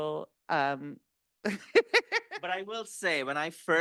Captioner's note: laughing